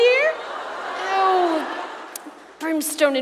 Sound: audience laughs

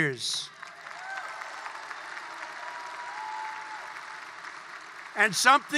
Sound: applause

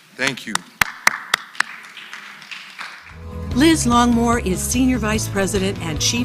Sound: applause

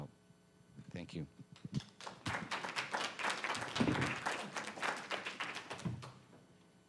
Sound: applause

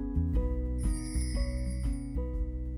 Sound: tinkling; gentle music

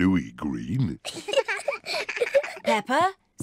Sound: both giggle

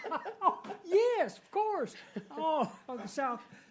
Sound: laughing

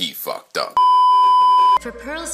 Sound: beeeeeep

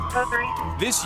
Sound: sirens

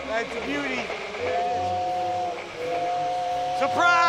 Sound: train choo-chooing

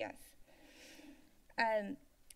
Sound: inhales

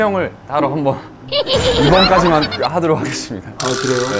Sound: laughing

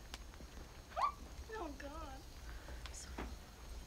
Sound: squeaks

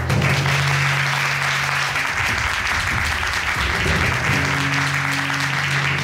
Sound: audience applauding

